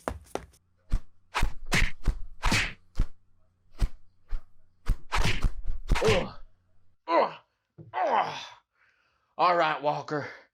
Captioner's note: sounds of the Bad Guy losing a fight